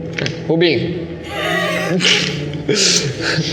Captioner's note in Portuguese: risadas